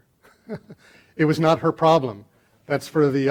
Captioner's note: laughing